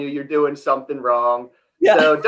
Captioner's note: laughs